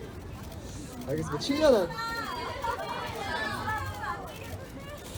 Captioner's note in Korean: 관중 소리